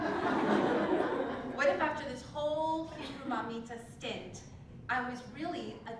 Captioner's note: laugh